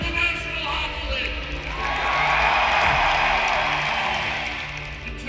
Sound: applause

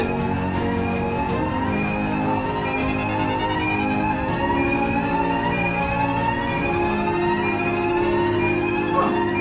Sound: alarms Blaring

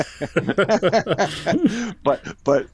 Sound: both laughs

